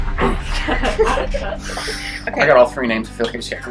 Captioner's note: inhales and exhales